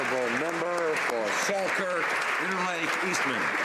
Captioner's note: applause